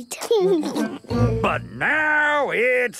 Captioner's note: laughing